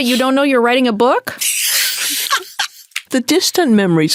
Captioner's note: Candice laughing